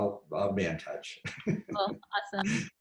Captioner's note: laughs